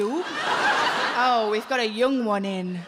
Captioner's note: audience laughs